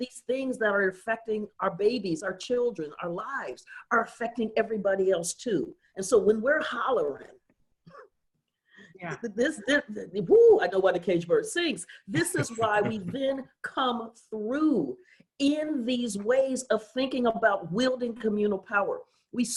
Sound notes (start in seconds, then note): 9.1 laughs